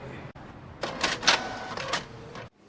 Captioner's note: printer printing